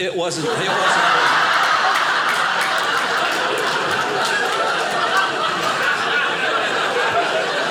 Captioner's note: audience laughing; audience applauding